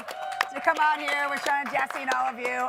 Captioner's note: audience cheer and clap